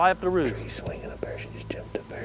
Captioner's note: whispering